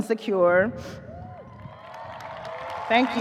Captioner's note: audience cheers, applauds